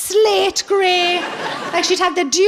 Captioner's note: laughing